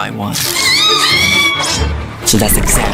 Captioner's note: screams